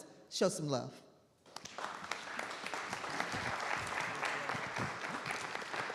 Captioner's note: audience applauding